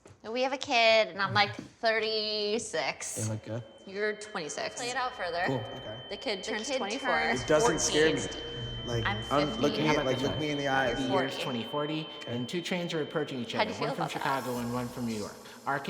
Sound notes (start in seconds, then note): 4.8 high pitched ring, talking overlaps; 10.2 high pitch ring continues